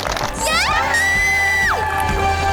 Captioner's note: screaming